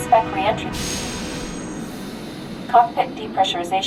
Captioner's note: air hisses